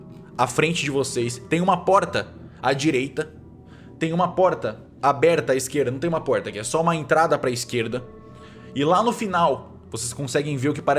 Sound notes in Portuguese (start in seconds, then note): none